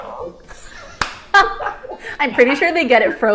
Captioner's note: both laughing